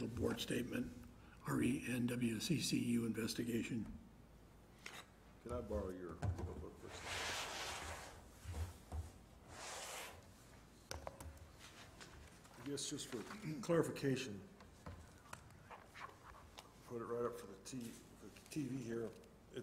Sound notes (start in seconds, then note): 8.1 rustling